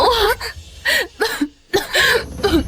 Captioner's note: cough